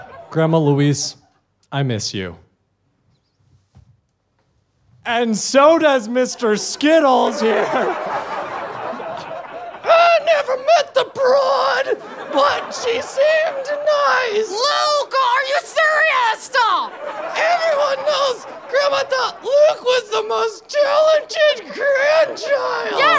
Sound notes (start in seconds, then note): 0.0 audience laughter; 7.8 audience laughter